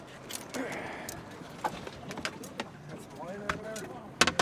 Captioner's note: fish thrashing